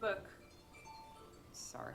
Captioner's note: cell phone jingle